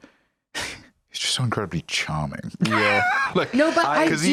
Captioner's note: laughs